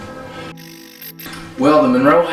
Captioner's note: static fizzing